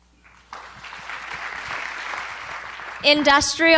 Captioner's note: applause